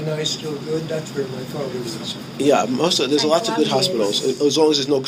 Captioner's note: laughing